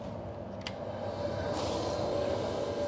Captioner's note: machine noise